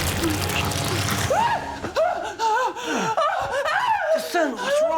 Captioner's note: screams